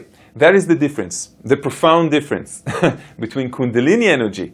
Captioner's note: laughs